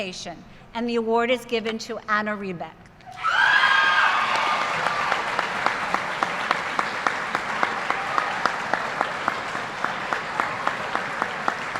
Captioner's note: applause